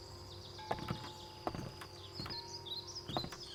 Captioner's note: footsteps on the wooden bridge